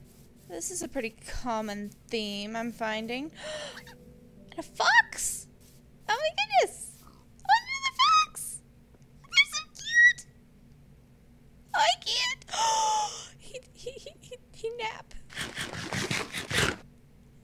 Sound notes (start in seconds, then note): 3.4 gasp; 6.8 squeals in too much cuteness; 12.6 gasp